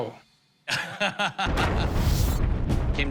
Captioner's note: laughs